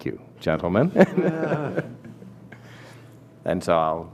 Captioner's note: laughter